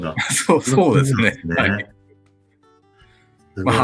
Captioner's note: laughs